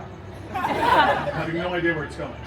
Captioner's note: guests laughing